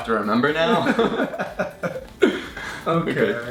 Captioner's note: laughing